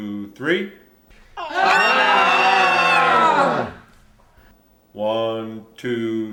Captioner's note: people screaming